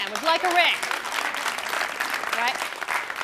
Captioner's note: clapping